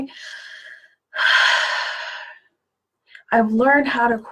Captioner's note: exhales heavily